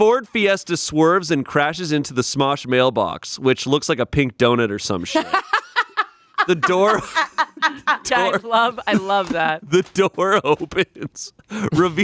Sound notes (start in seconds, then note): 5.1 laughing